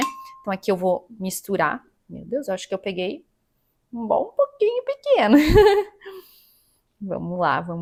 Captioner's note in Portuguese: risos